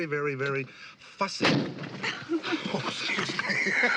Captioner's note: cork popping